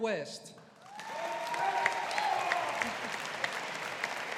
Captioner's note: audience applauding